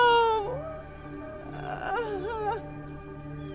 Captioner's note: woman sobbing